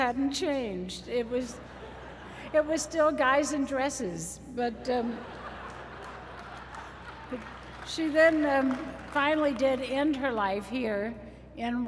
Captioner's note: laughter; applause